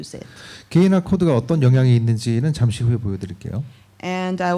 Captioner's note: speaking korean